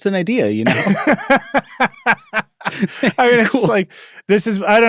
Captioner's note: laugh